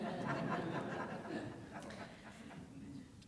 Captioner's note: audience laughing